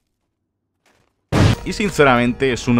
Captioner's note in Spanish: explota